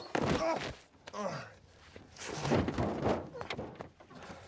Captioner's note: grunts